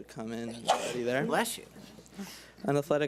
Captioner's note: woman sneezes